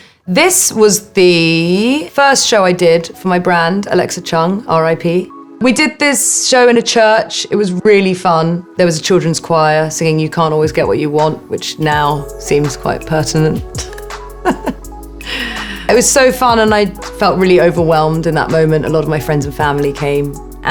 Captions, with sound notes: This was the first show I did for my brand, Alexa Chung, R-I-P. We did this show in a church, it was really fun. There was a children's choir singing, You can't always get what you want, which now seems quite pertinent. [Alexa laughing] It was so fun, and I felt really overwhelmed in that moment. A lot of my friends and family came,